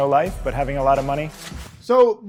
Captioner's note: graphics clicking